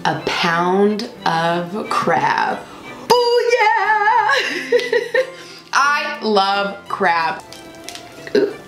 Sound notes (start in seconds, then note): 4.4 laughing